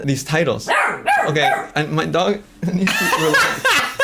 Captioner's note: laughs; barking; laughs